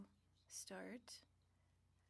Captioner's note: speaking French